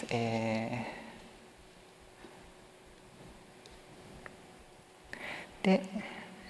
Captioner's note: silence